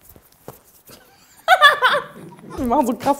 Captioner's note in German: Sie lacht